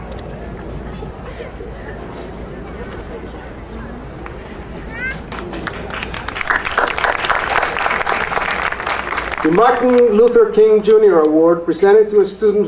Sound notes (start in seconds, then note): 5.0 audience applauding